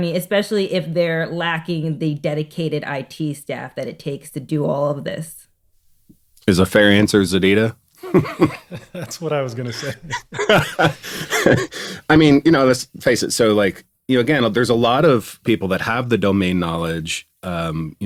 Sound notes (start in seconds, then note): 8.0 chuckling; 10.4 laughs